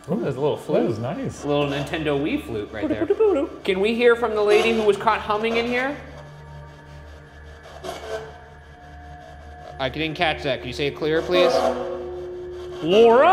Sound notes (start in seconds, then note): 3.5 imitates flute; 6.9 static buzzing